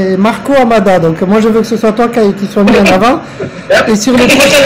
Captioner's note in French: rire